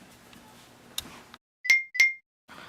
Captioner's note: ding, ding